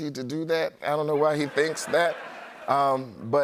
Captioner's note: laughter